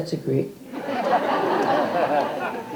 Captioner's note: audience laughter